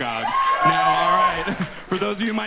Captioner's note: audience cheers and applauds